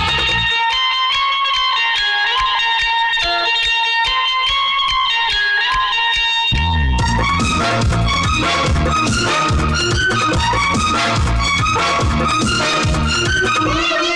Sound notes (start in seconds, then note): none